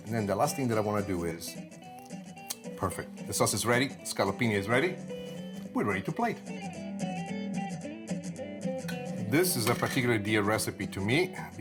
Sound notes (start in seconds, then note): 1.9 lips smack; 6.7 upbeat jazzy music